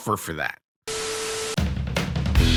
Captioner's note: TV static; surf rock music